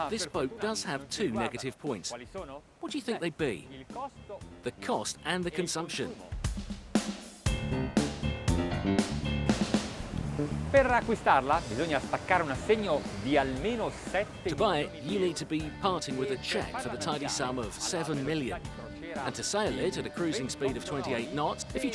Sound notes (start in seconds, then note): 10.9 speaking in foreign language